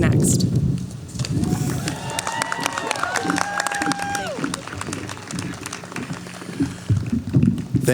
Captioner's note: cheering